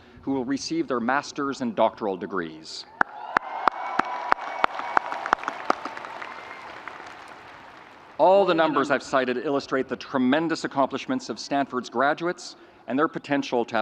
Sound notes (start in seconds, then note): 3.0 audience cheering